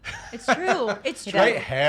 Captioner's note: laughing